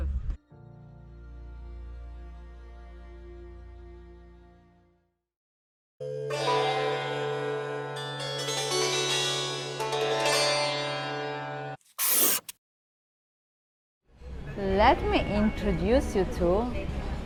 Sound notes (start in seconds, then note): 0.3 chill piano and string music; 6.4 sitar; 11.9 marker sound